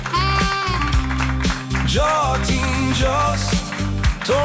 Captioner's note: applause / vocals